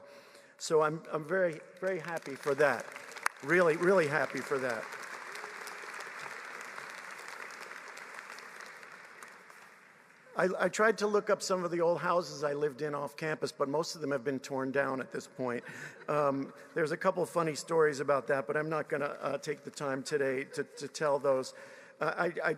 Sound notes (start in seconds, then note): 9.4 applause